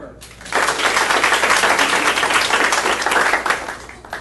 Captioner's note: audience applauding